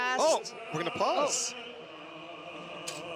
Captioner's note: yelling